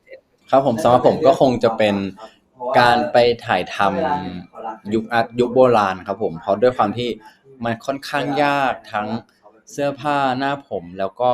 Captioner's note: answering in Thai